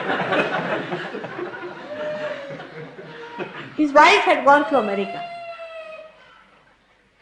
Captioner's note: laughter